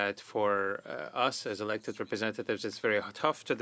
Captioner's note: speaking French